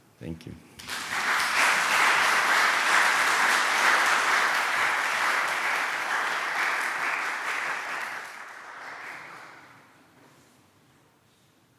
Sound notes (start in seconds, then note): 0.8 applause